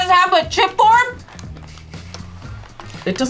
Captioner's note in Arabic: يستنشق